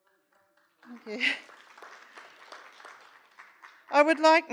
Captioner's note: applause